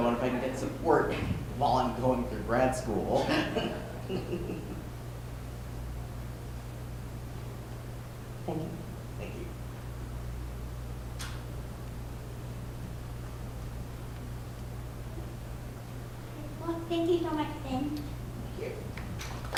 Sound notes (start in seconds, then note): 3.1 laughter; 19.3 applause